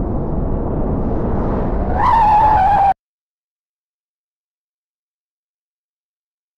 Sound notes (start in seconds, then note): 1.5 tires Squealing